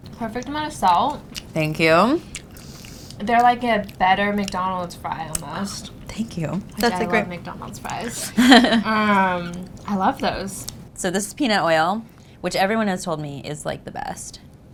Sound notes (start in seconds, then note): 7.9 laughs